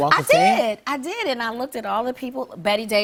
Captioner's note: none